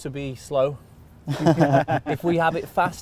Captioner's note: group laugh